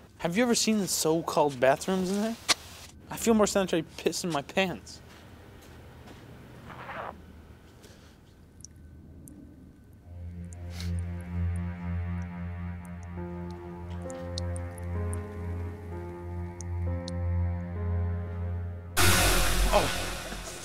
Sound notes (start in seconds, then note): 6.7 zipper unzipping; 9.4 urine dribbling; 11.3 foreboding music; 19.0 music crashes